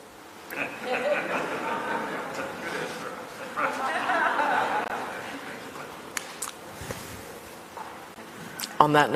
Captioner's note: laughter